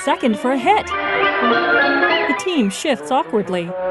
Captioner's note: whimsical music plays; crowd cheering